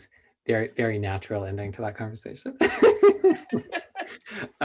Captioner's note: laughter